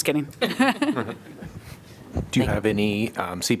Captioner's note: laughter